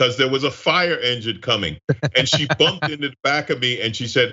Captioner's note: laugh